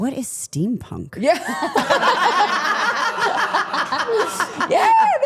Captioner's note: everyone laughing